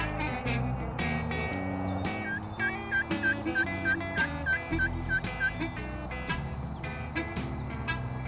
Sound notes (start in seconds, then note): 1.8 blues music; 1.8 turkey calls